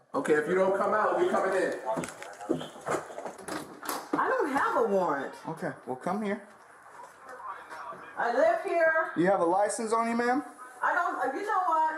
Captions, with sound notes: Okay, if you don't come out, we're coming in I don't have a warrant Okay, well, come here (Radio chatter) I live here You have a license on you, ma'am? I don't You know what?